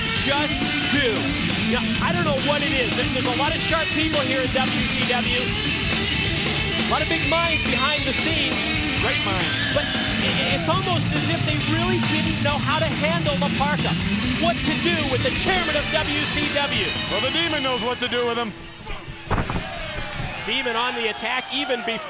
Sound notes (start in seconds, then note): 18.7 bell ringing